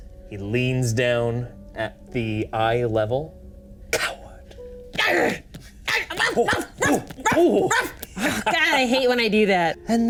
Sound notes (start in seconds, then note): 5.3 Odie growling; 5.9 Odie barking